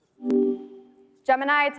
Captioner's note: tone beeping